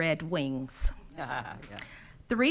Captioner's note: laughing